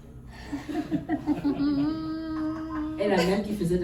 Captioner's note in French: rires